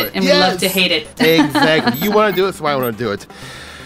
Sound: laughs

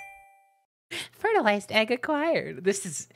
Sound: high pleasant voice

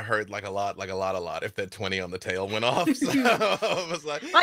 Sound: laughs

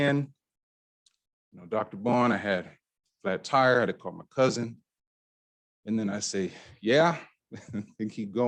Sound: chuckle

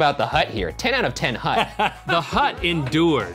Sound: laughing

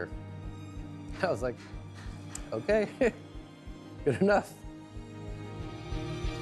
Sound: chuckles

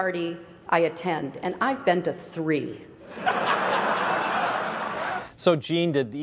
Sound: laughs

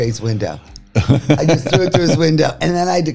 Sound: laughing

